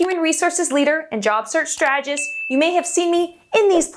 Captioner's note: bell chimes